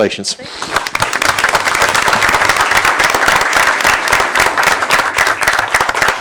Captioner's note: applause